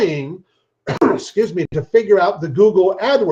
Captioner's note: coughs